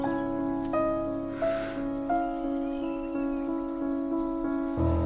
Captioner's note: Ira sighs